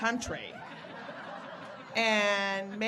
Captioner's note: audience laughing